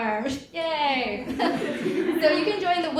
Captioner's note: audience laughs